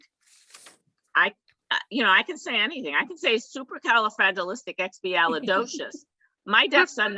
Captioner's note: laugh in the background